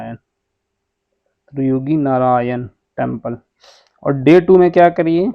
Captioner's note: nasal sound